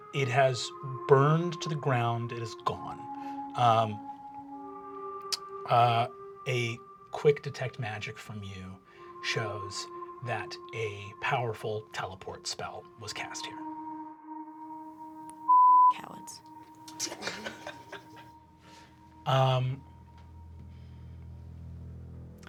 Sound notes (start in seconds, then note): 15.5 beep; 16.9 laughing; 19.6 tense music